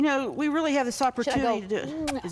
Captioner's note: puckers